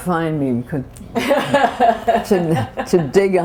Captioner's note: laughter